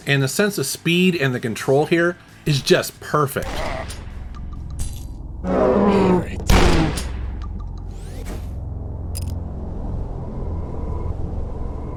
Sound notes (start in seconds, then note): 3.4 gun blasting; 3.4 monster groans; 5.4 monster roars; 6.4 gun blasting; 8.7 sparse tense music